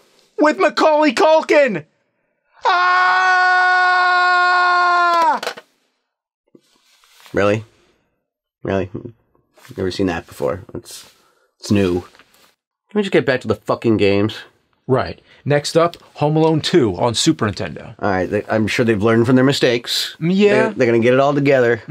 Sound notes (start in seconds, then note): 2.5 Nerd screams like Kevin